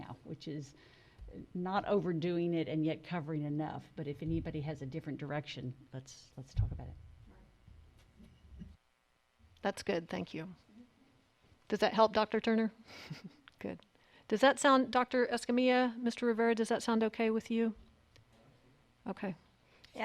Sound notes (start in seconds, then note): 13.4 laughs